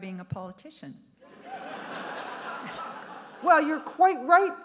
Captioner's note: audience laughing